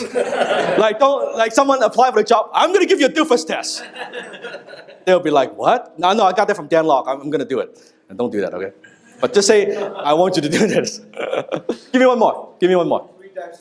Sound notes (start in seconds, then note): 0.0 laugher; 3.8 laughter